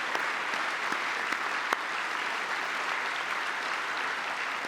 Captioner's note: applause